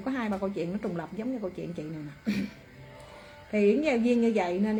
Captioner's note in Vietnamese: hắng giọng